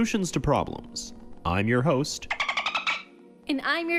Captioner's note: dolphin noise